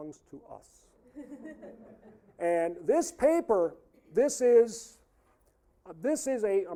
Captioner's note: audience laughing